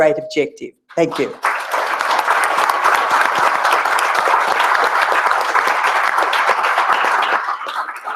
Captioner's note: applause